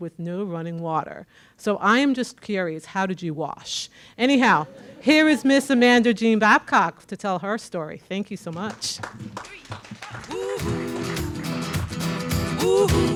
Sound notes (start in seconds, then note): 4.5 audience laughing; 8.5 audience clapping